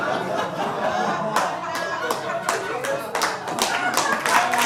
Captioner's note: audience laughing; audience applauding